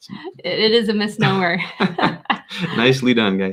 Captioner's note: laughs